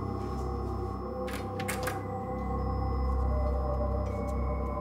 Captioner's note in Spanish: sonido al abrir la puerta